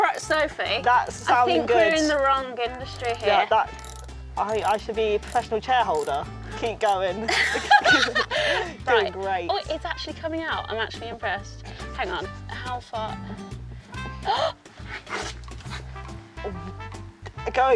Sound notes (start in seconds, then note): 7.2 both laughing; 14.3 gasps